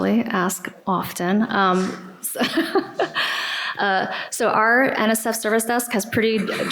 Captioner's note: laughter